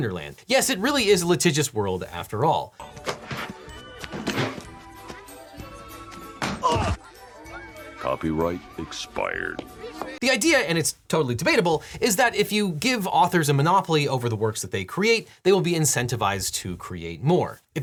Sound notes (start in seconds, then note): 6.4 bag thuds; 6.6 person groans